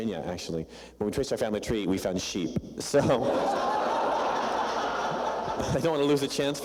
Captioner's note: laughter